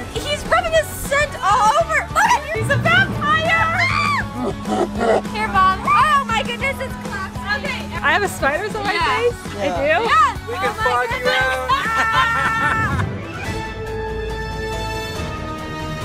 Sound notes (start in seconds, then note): 11.3 laughs; 13.4 lively music